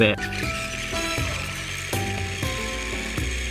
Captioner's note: motor whirs softly